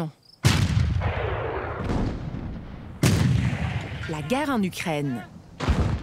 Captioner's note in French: tirs